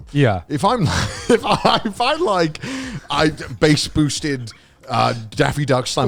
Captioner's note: laughing